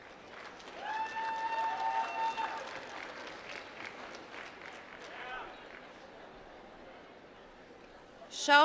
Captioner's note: applause